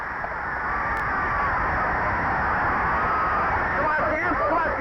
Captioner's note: crowd cheering